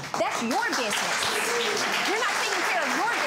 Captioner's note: applause